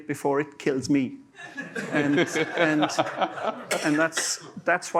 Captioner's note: laughter